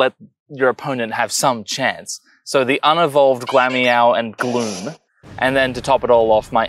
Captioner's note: glalie explodes